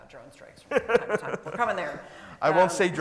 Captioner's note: laughs